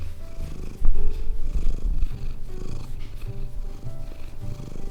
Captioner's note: purring intensifies